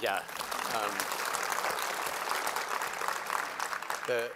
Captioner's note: applause